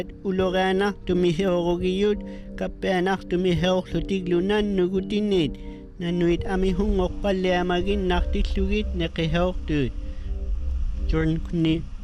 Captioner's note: speaking inuktitut